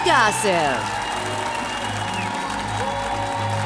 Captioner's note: audience cheering; applause